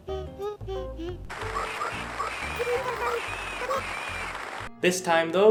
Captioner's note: Pigmasks cheering